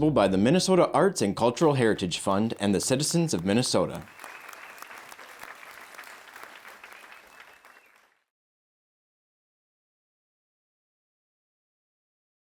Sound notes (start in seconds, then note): 3.9 audience applauds